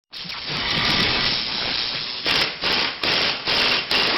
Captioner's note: engines clattering